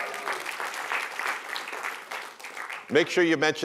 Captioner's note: applause